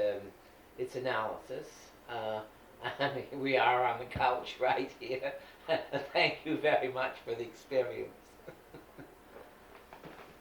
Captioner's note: laughing